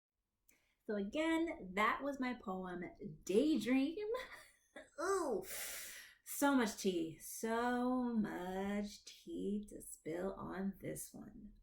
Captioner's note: giggles